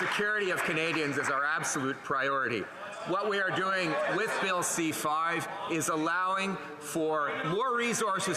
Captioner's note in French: voix de l'interprète